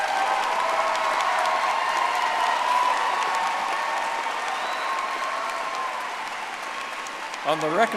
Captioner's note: audience applauding